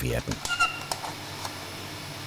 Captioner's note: squeaking